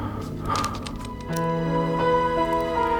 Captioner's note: lighter clicks